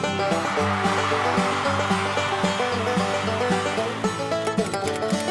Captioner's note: applause